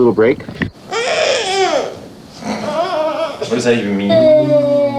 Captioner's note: fussing